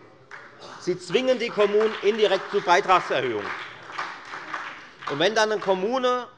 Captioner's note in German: Beifall bei der FDP und bei Abgeordneten der SPD